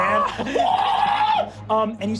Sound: shrill ululating; silly animal noises

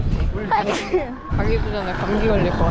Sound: sneezing

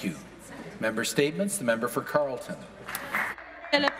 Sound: applause

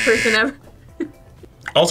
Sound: laughs

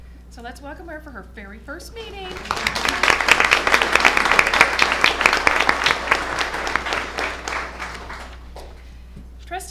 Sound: applause

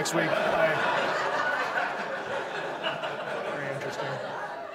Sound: audience laughs

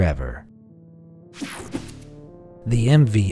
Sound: slide swooshing

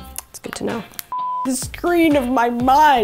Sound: bright music; beep

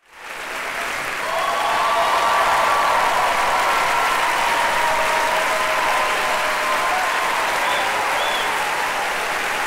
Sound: applause

